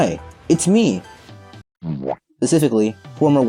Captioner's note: bowomp* SFX